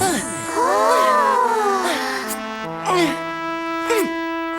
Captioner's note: triplets exclaiming